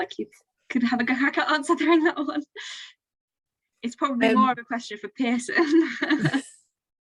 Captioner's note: laughs